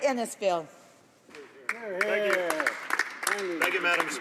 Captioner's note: some applause